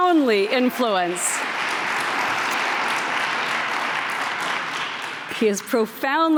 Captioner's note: applause